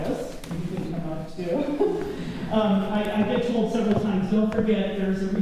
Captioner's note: laughter